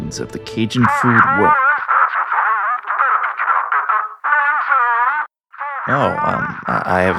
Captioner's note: indecipherable watterlogged ringtone